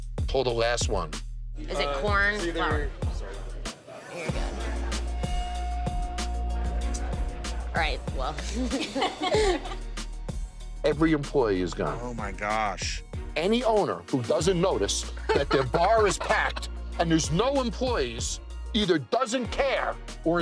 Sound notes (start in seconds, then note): 8.5 women laugh